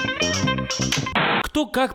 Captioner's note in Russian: помехи